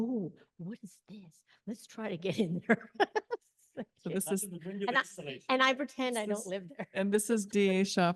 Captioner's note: laughs